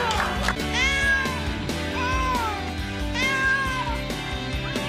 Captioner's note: meows